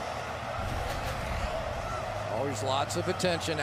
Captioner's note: pa announcement